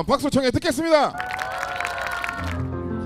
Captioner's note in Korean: 짝짝 x10